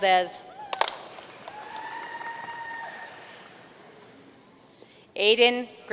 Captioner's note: audience cheering and applauding